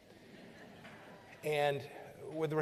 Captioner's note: laughter